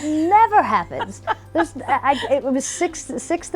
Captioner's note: laughing